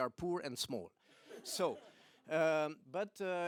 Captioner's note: laughter